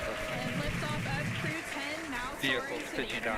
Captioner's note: cheering and applauding